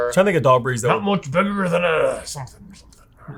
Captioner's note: grumbles